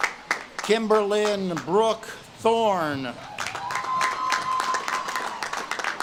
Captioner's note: audience claps and cheers